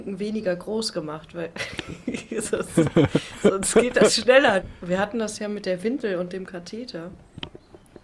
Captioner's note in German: gelächter